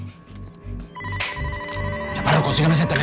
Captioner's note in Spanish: Suena un teléfono